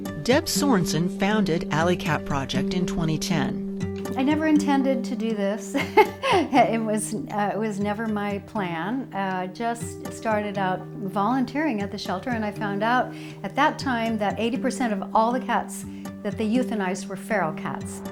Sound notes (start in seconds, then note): 5.7 chuckles